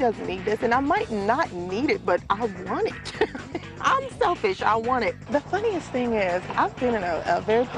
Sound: laughs

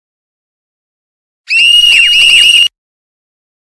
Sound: loud screams

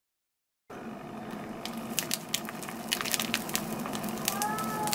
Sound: peeling sounds

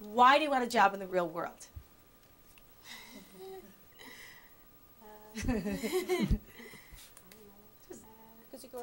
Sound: giggling

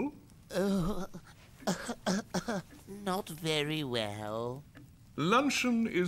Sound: sounds of severe infirmity

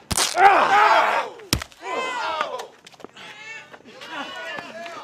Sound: Rob screams; blows thudding

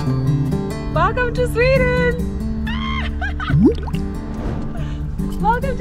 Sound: laughs excitedly

